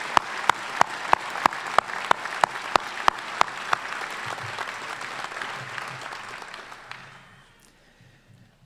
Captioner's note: applause